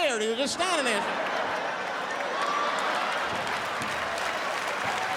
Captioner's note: audience laughs